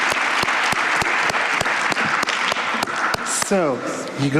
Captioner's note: applause